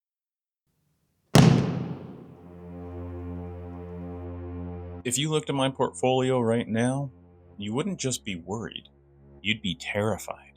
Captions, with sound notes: (Gunshot) (Somber Music) If you looked at my portfolio right now, you wouldn't just be worried, you'd be terrified.